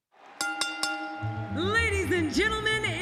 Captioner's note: bell ringing